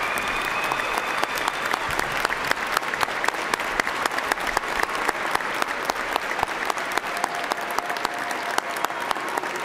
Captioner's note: cheers and applause